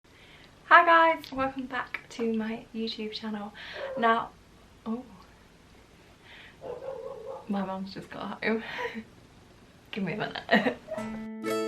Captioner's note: dog barks